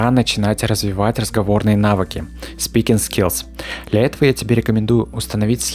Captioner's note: Speaking